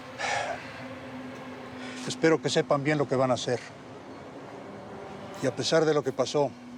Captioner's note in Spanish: suspiros